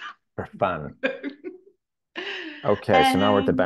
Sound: laughing

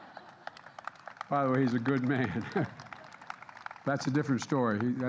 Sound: laughter and applause; laughs

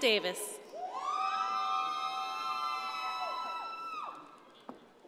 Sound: audience cheering

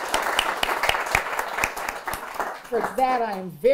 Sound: applause

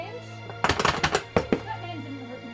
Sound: door knocking

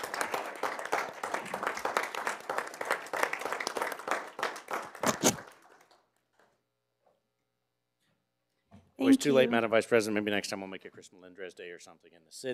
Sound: applause

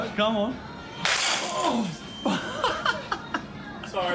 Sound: glass shattering

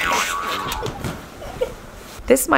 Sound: laughter

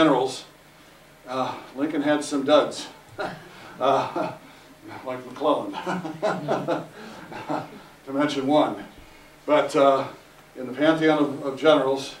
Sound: laughter

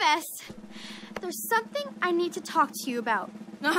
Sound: sigh

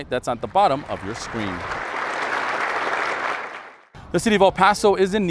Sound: audience applauds

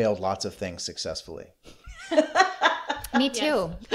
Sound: laughter

